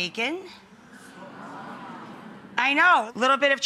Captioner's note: audience oohs